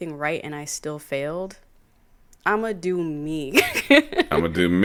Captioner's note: chuckles